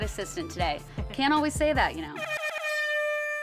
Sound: air horn blowing

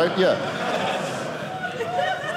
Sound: audience laughing

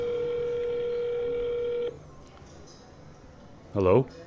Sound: phone ringing

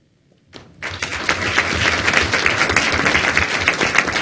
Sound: audience applauding

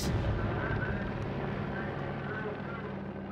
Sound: helicopter overhead

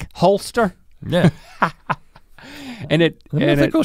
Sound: laughs

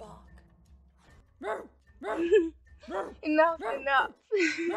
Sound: Bellatrix laughs; Regulus barking

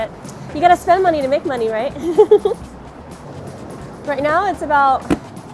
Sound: laughs

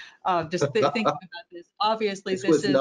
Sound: laughs; laughs

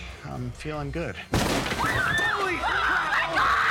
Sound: screams

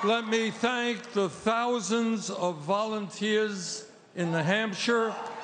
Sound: cheers and applause

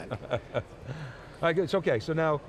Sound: laughing

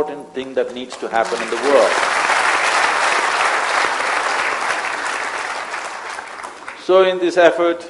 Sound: applause

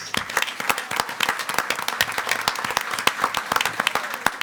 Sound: audience clapping

